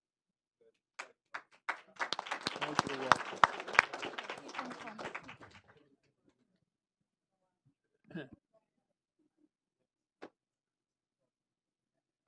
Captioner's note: applause